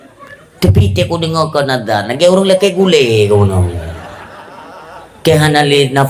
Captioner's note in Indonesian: tertawa